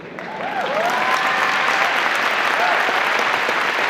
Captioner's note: audience applause